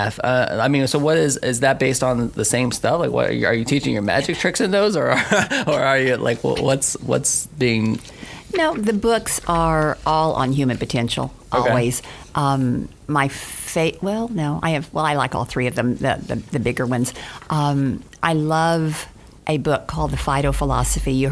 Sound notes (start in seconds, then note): 5.1 laughs